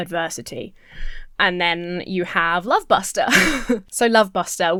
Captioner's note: Emma chuckles